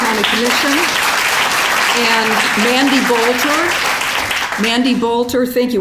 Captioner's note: applause